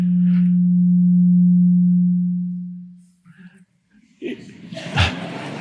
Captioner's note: microphone reverberates; audience laughs